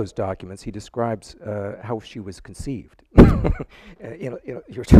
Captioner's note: chuckles